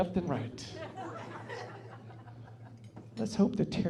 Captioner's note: laughing